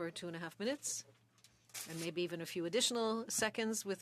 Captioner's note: speaking French